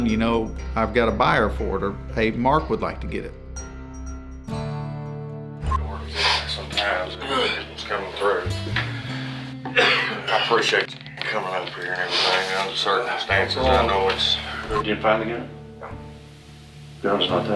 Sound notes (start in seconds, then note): 5.6 upbeat music; 9.6 coughs